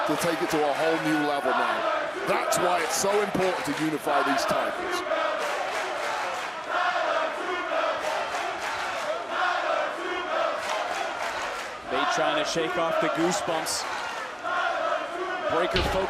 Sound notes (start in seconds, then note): 4.8 crowd chants "tyler two belts"